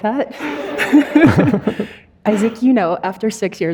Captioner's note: audience laughing